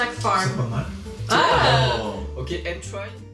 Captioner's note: gasps